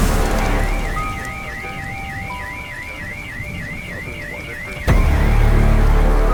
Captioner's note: siren wailing; anxious music